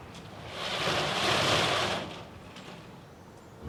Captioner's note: rustling of garage doors